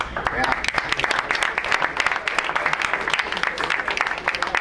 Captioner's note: crowd applauds